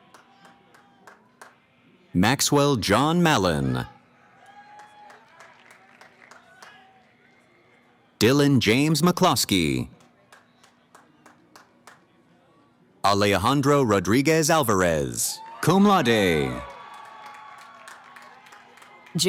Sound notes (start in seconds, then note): 3.6 cheering; 9.9 applause; 15.2 cheering